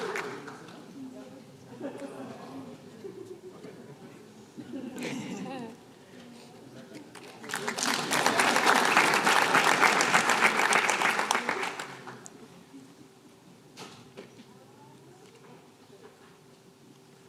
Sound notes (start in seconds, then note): 4.6 laughter; 7.1 applause